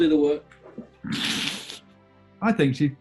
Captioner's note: sniggering